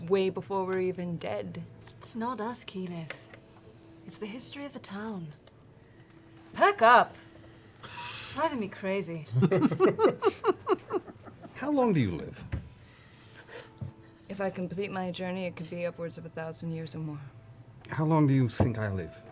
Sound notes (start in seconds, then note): 9.3 laughter